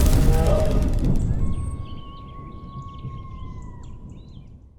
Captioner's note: wilderness sounds